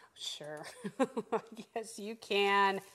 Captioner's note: laughing